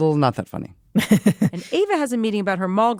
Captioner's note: laughs